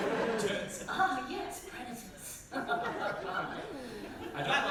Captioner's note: evil laugh